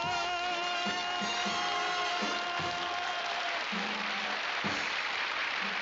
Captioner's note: cheering and applause